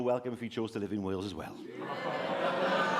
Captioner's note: laughter